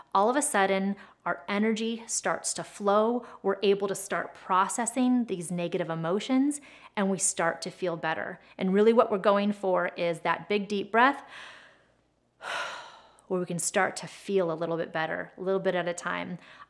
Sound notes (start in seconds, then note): 11.2 breathes deeply